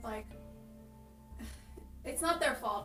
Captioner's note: chuckle